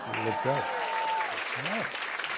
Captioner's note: applause